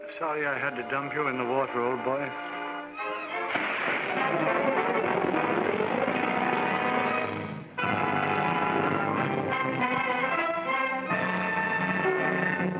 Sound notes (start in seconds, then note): 3.4 air whooshes & leaves rustle; 3.4 whimsical music; 7.8 uplifting orchestral music